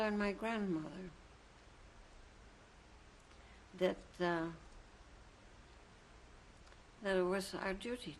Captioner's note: pauses for 3 seconds